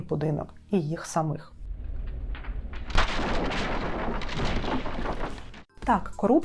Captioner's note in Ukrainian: звук вибуху